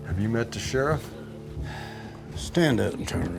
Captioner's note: sigh